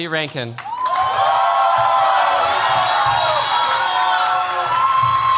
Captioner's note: cheers, applause